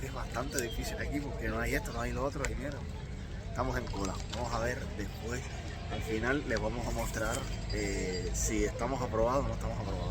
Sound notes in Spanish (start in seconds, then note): none